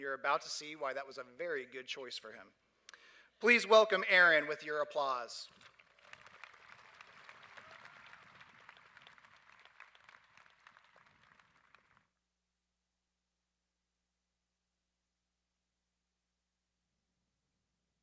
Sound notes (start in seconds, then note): 5.5 applause